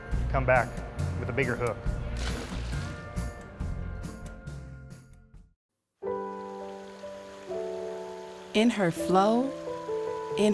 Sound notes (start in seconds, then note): 2.1 splash; 6.0 peaceful music